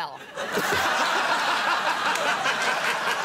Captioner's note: all laugh